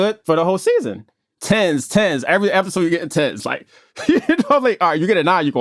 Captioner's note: laughs